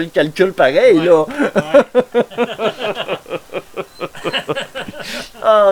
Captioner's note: laugh